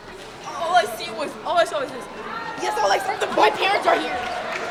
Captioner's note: audience chattering